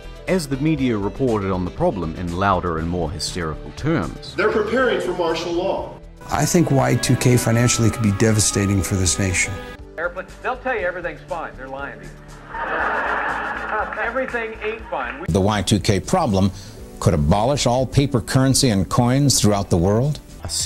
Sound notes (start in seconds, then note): 12.4 laughing